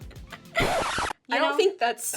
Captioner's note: record scratches